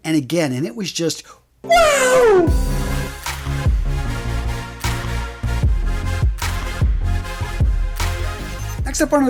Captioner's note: sound effect